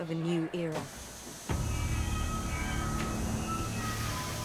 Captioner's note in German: dampfendes und zischendes Schiff